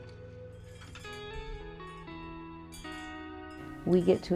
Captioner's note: wind chimes chiming